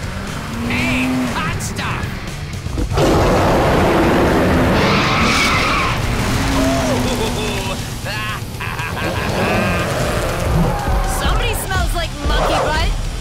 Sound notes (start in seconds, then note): 2.6 roaring; 4.5 tires squealing; 8.7 cackling